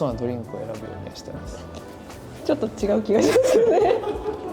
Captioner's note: laughs